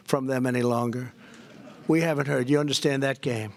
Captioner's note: laughter